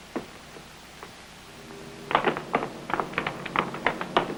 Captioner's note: footsteps clicking